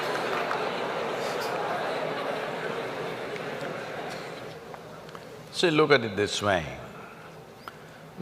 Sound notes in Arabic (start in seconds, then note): 1.3 يضحك